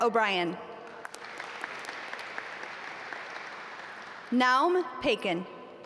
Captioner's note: audience applaud